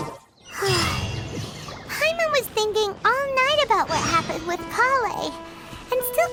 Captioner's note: sigh